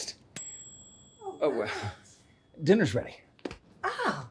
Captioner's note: bell ringing